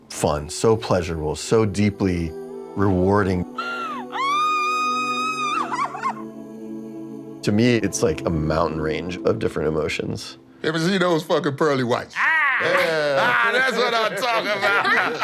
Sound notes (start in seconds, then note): 3.6 screaming; 14.7 laughs